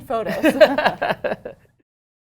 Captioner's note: laughter